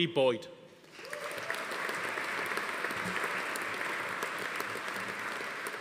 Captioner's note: audience applauding; attendee cheering